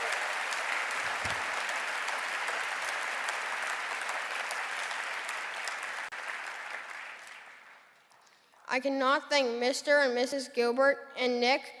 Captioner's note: cheering and applause